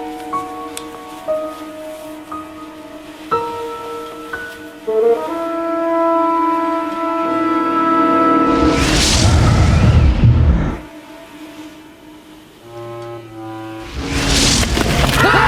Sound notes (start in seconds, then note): 9.3 breathing heavily